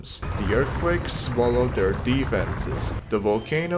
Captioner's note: locals screaming